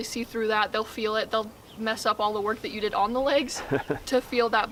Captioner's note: chuckles